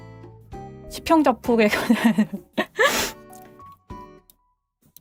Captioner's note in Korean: 웃음